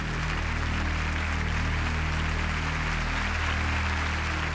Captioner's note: audience applauds